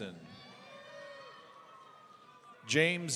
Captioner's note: audience cheering